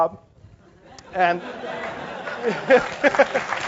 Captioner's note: laugh; applause